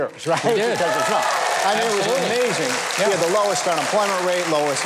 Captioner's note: audience cheers